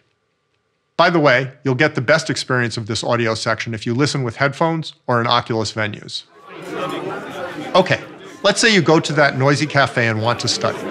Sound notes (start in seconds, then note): 6.2 indistinct chatter